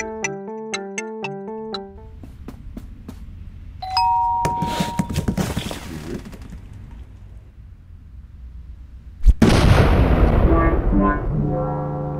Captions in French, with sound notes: Cinq minutes plus tard *Ding dong*